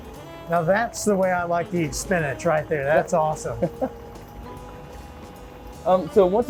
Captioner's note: laughing